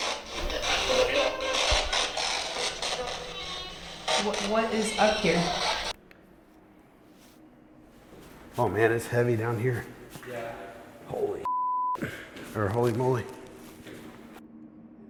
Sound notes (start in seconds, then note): 0.1 spirit box voice; 6.6 spirit box stops